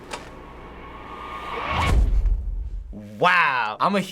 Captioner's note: dramatic whiz